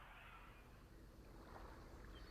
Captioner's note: birds